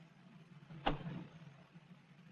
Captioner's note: kick